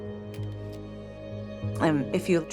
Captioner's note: shutter clicks